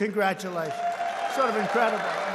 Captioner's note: applause